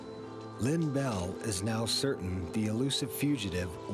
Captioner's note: voiceover